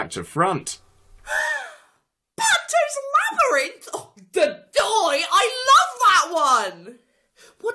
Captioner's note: joyous gasp